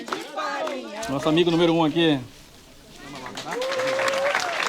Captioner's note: non-english speech